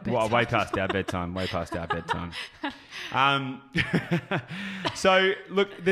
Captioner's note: laughs